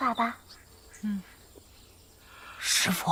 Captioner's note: yawning